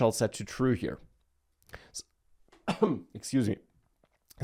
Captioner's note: coughs